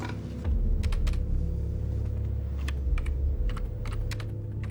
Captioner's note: computer keys clicking